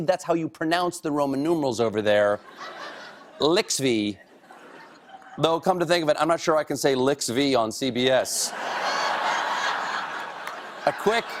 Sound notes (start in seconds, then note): 4.9 cheers and applause; 4.9 laughter